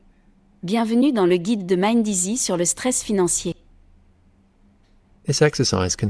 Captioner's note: speaking in foreign language